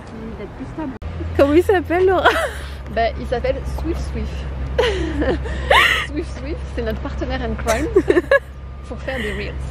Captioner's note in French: rires